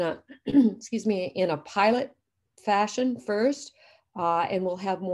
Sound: clears throat

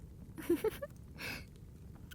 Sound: laughter

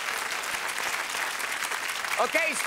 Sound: applause

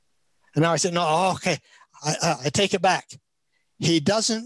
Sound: speaks in Chinese

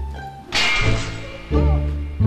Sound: clash

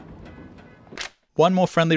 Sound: dumpster noise

